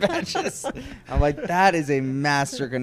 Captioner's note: laughs